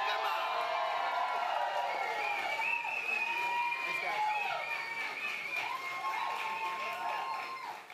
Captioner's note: applause